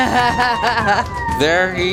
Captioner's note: laughter